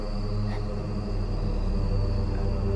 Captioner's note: Alvin breathing shallowly